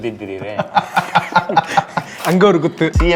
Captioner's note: laughs